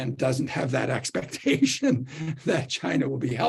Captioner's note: laughter